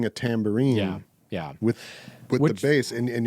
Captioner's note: none